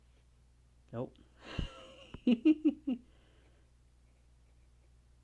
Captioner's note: laughs